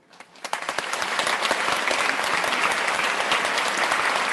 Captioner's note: crowd applauds